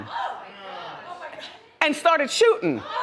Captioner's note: audience gasps